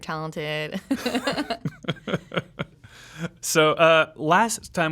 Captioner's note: laughing